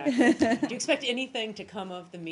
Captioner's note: laughter